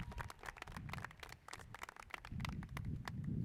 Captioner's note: cheers and applause